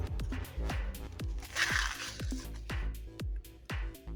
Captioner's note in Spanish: Sonido del empaque